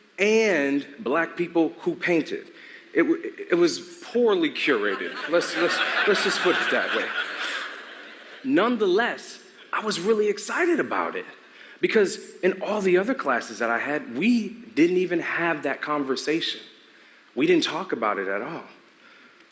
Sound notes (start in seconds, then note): 4.6 laughter